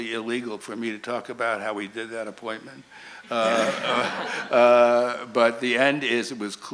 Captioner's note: laughter